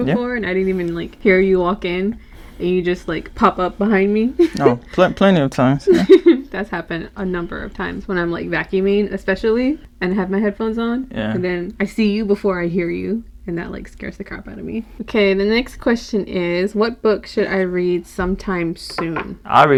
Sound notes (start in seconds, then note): 5.6 chuckles